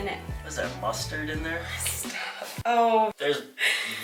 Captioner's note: laughs